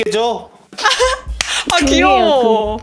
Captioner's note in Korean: 박수